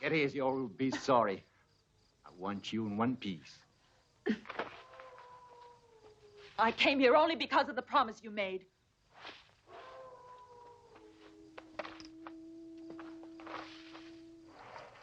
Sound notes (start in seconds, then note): 9.6 wolf howling